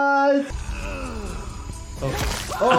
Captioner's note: video game character grunts; blood sloshes